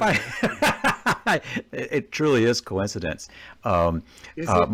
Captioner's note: laughs